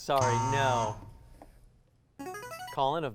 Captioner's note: buzz; ringing